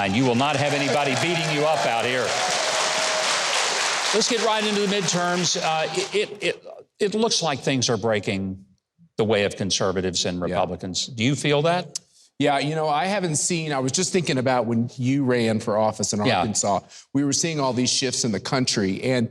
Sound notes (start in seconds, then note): 3.0 audience applauding; 3.0 audience cheering